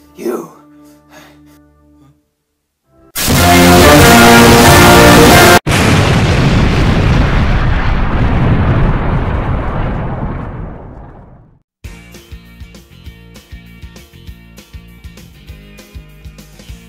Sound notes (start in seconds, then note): 5.6 boom